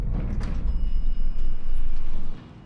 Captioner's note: elevator bell dings